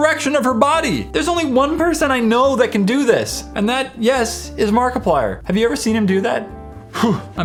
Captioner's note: huh